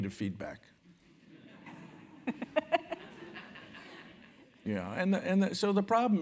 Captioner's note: laugh